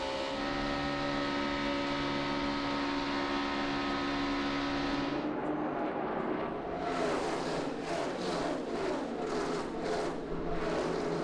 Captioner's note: engines roar